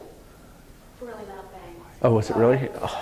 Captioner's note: voiceover